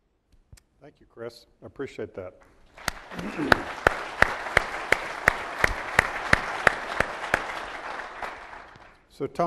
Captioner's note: applause